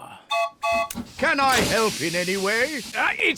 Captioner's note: toots horn